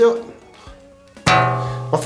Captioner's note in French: shblong